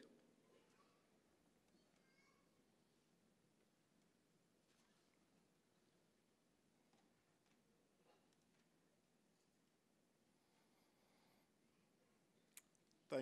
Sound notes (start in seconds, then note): 2.5 a moment of silence